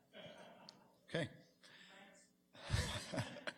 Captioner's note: man laughs